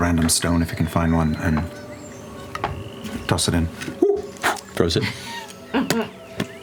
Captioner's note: blows; monkey ooh; stone bouncing